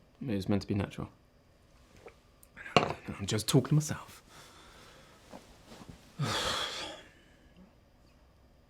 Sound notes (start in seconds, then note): 6.1 sighs